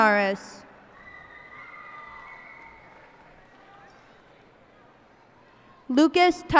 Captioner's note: cheers and applause